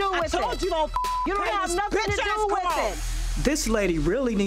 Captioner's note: beep